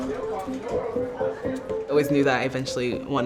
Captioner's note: people chattering